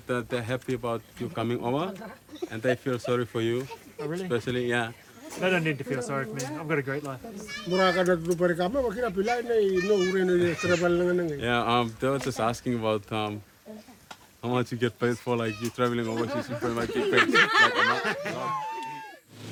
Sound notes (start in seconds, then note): 7.9 speaking in native language; 18.5 laughter